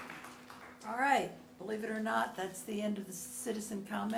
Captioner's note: applause